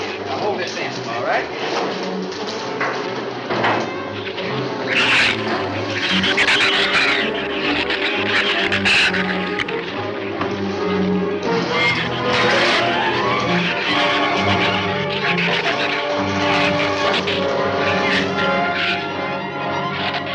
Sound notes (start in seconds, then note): 3.9 shrews snarl and chatter; 14.9 dramatic music continues; 14.9 shrews snarl and chatter